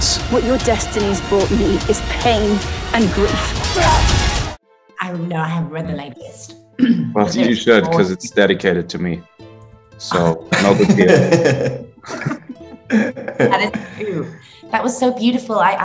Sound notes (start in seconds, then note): 10.5 laughing